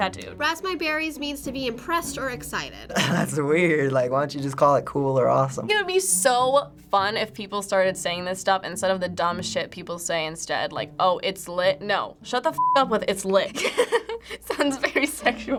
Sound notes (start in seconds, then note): 2.9 laughing; 13.5 giggling